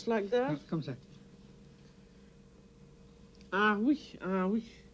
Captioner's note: speaking french; speaking french